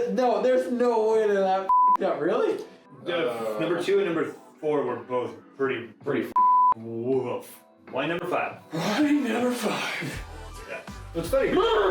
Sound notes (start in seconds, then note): 1.7 beep; 6.3 beep